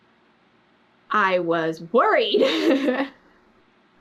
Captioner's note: laughs